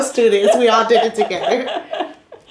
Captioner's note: laughter